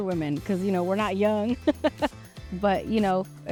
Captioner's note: laughing